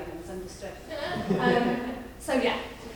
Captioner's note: audience laughing